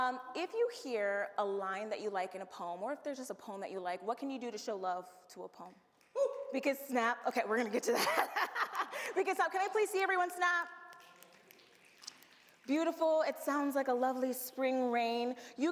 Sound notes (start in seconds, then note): 6.6 audience whoops and snaps fingers; 7.8 laughs; 10.8 audience snaps fingers